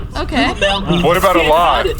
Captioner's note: sparking continues